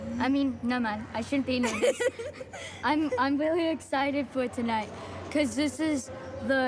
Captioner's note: giggles